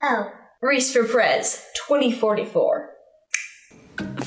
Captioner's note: clicks tongue